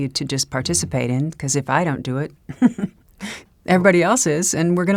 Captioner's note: chuckles